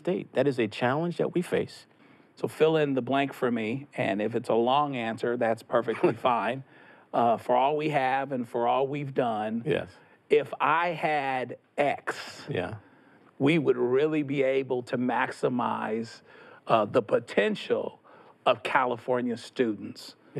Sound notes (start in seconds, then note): 5.8 Tony laughs